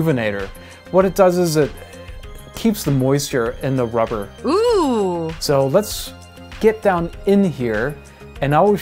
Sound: female voice Ohhhh

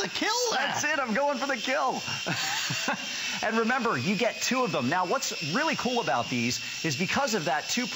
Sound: laughter

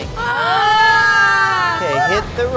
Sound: yells

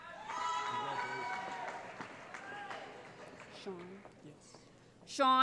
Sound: cheering

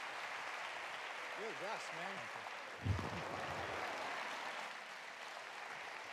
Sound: audience applauds

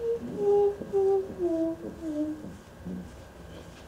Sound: dog whimpering

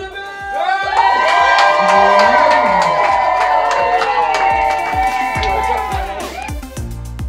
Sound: crowd cheers

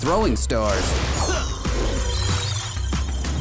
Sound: grunting

